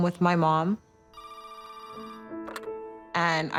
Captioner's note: phone ringing